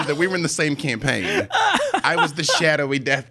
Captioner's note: laughing